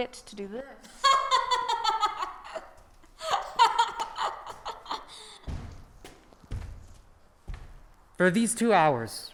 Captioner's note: laughs